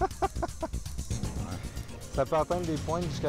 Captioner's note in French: rires